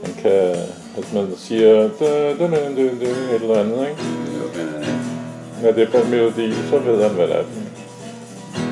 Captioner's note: humming melody